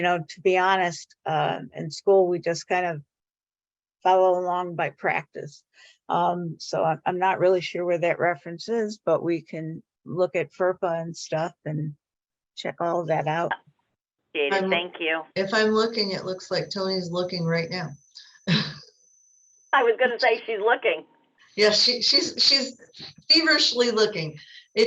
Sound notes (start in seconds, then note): 18.4 chuckles